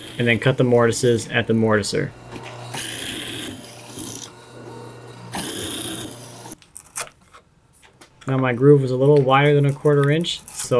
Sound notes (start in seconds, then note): 3.0 machine whirs